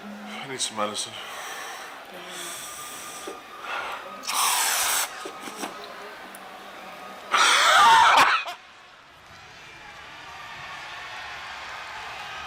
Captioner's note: crowd cheering